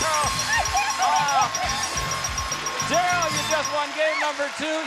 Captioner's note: applause; theme music playing